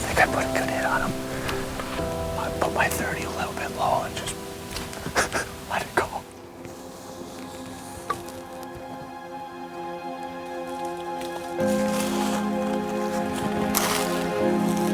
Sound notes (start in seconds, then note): 5.0 chuckles; 7.3 dramatic music